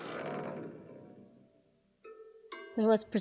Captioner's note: plates vibrating